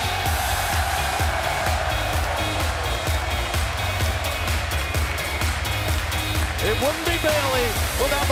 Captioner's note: cheers and applause